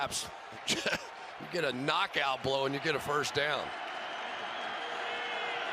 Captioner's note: chuckles